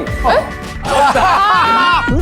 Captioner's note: full of laughs